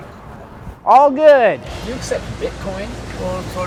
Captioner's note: horn honking